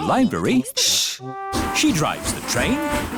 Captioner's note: chattering